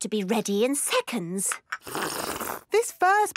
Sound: slurping

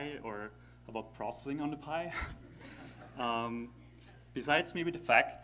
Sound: laughter

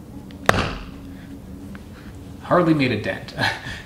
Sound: knife whacking; chuckles

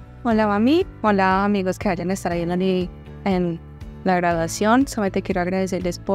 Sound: woman in red shirt speaking Spanish

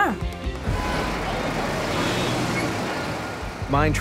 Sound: ambient city sounds

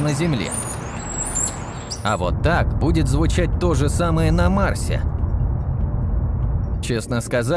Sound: insert the sound "Birds with City Noise" 0:09

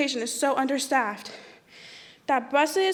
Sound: none

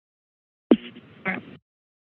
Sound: silence; mic thump; silence

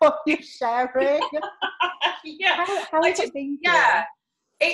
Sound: laughing

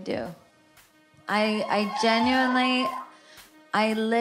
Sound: crowd cheering

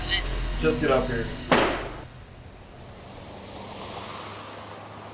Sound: door slams; cars driving

